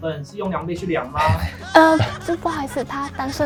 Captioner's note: laughing sound effect